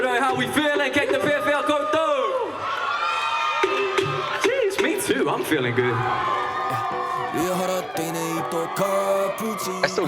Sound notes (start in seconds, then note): 2.6 cheering; 6.8 cheering